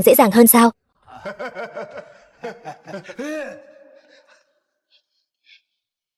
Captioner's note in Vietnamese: Tiếng cười